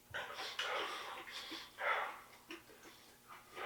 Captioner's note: Jacob shivering